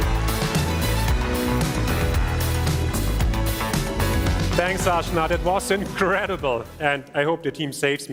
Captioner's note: cheers and applause